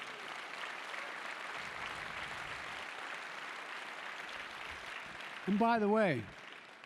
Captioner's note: applause